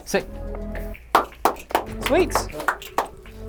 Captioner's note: claps